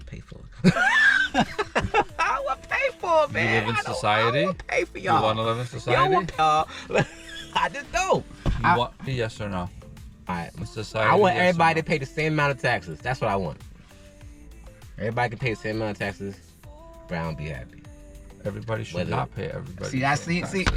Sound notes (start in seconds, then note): 5.0 laughing